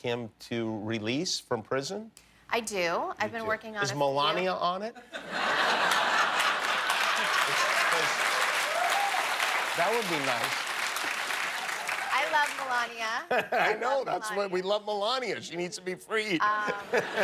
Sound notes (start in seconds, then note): 10.6 laughter; 11.5 applause